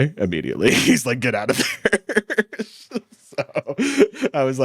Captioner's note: laughs